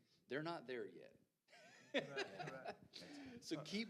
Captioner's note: panelists laughing